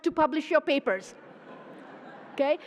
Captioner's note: laughter